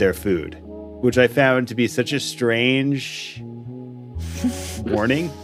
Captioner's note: laughs